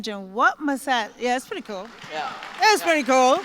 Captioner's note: applause